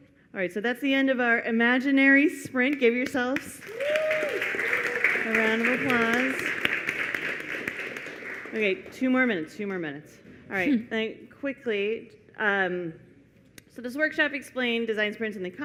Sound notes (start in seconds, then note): 6.5 applause